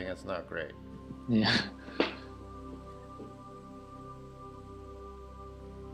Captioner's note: laughs; gentle music